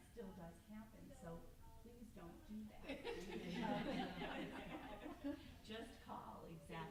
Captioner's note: group laughs